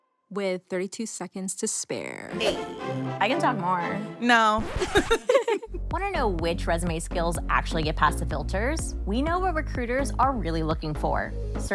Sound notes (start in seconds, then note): 4.8 both laugh